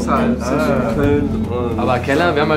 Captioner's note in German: Stimmengewirr